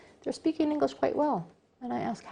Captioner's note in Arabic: تتحدث الإنجليزية